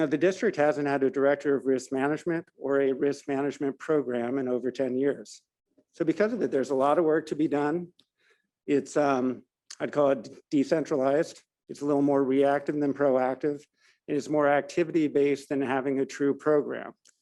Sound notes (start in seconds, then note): none